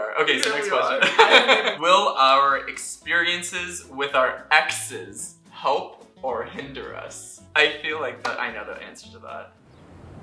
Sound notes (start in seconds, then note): 0.9 laughter